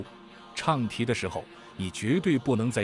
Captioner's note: chanting